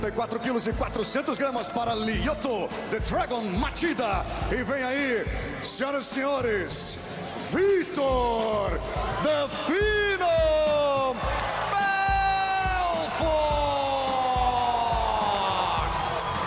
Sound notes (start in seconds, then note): 4.5 speaking foreign language